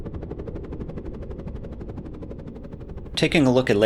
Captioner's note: helicopter